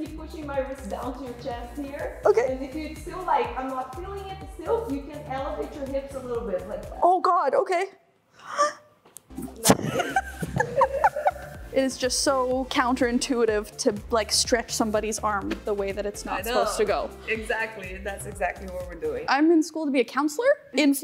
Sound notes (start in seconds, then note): 9.6 chuckles